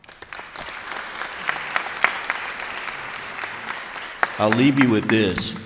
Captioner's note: applause